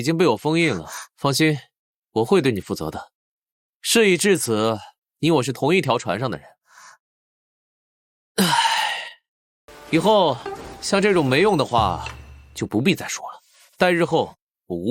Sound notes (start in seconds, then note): 8.4 sigh